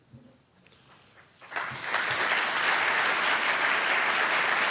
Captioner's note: applause